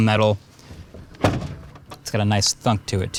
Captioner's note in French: la porte claque